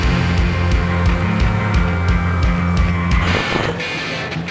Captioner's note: amplifier buzzes; siren blares; horns honk; lively music